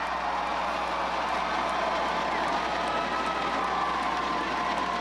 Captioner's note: crowd cheers